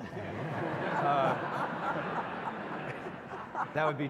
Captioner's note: audience laughs